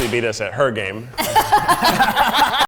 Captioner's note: everyone laughs